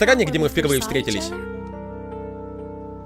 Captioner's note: none